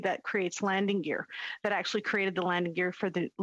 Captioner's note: speaking French